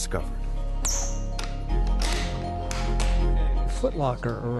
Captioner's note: locks clicking